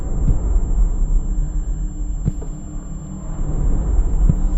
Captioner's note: footsteps approaching